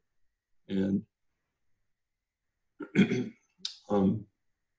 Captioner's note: clears throat